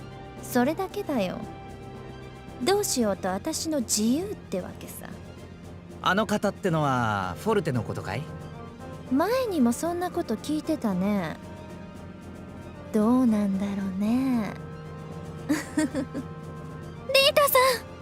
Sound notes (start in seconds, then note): 15.5 chuckle